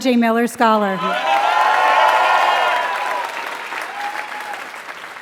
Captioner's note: applause